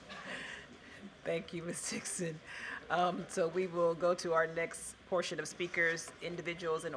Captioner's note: laughter